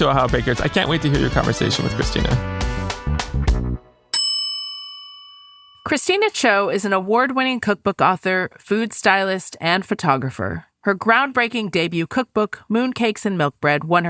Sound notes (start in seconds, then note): 2.9 upbeat music; 4.1 bell dings